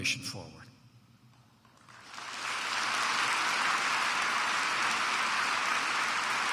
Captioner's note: applause